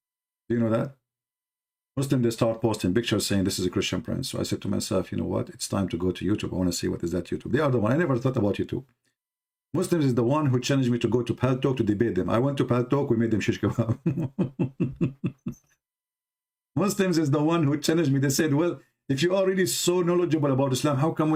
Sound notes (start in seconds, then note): 13.7 Ketawa